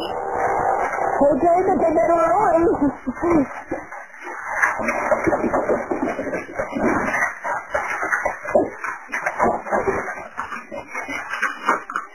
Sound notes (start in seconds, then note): 2.5 fire crackling; 3.0 objects thudding